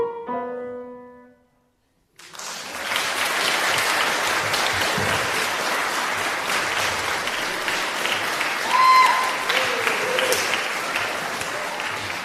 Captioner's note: applause